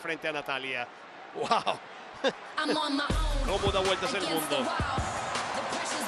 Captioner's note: laugh